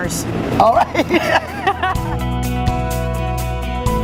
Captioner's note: laughs; lively music